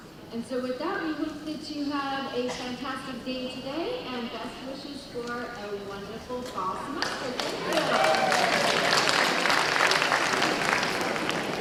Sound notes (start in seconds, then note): 7.0 applause